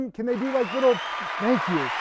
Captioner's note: crowd cheering